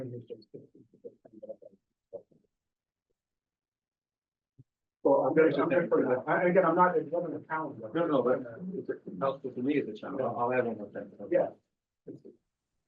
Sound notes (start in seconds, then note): 1.7 student speaking faintly off mic